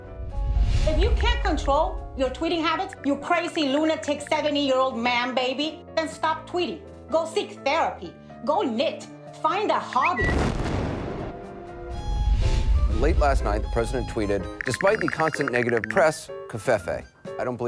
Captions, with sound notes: - If you can't control your tweeting habits, your crazy, lunatic 70 year old man baby. Then stop tweeting. Go seek therapy. Go knit, find a hobby. (bomb exploding) - Late last night, the president tweeted, despite the constant negative press Covfefe.